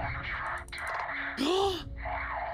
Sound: gasp

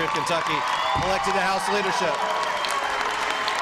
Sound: applause

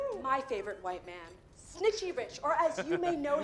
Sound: laughs

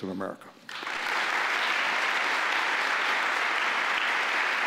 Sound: applauding

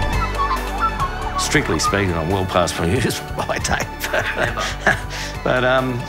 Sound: laughs

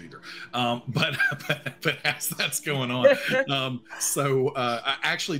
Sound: laughing

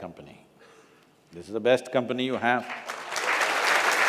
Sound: applause

